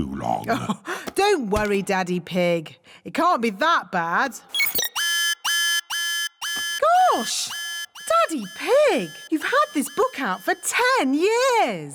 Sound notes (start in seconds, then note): 0.2 chuckles; 4.5 beeping; 4.5 alarm blares